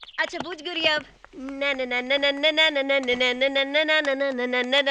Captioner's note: humming